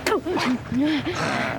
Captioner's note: Promise spits